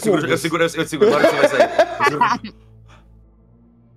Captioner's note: laughter